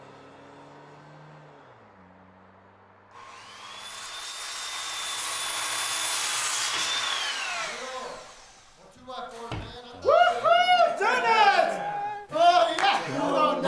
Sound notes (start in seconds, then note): 3.1 buzzing saw